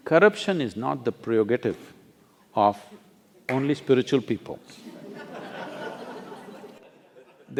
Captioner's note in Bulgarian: Смее се